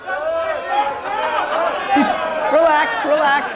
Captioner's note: crowd woos; crowd discussion starts